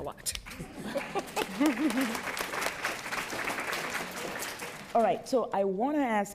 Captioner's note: applause